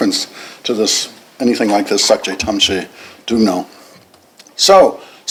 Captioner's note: non-english